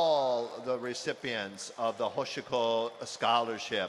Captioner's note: speaking hawaiian